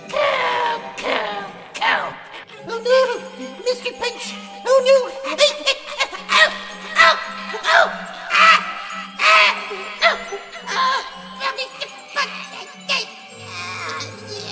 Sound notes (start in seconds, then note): 6.3 all scream